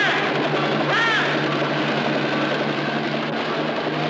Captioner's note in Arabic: إطلاق نار